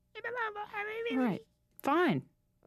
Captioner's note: babbles